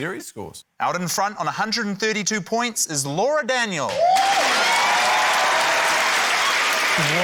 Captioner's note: cheering, applause